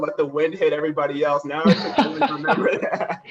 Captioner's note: laughter